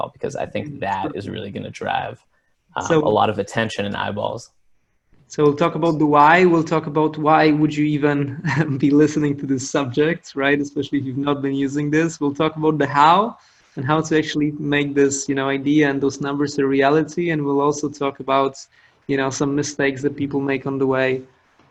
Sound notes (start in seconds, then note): 8.2 laughs